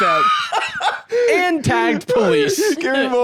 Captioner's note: laughs